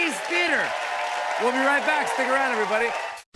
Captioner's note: cheers and applause